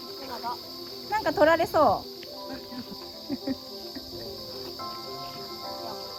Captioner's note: laughs